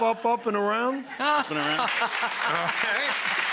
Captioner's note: laughing; audience applauding